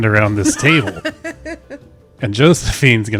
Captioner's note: laughs